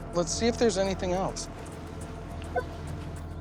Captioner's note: metal detector beeps